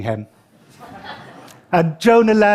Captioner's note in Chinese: 笑聲